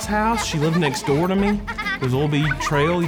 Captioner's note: children laughing